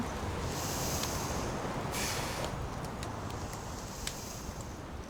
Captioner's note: inhales and exhales deeply